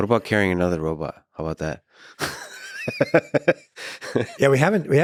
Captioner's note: laughing